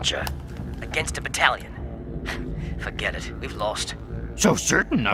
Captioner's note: laughs